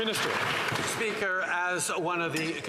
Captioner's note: some Applause